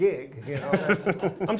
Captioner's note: laughs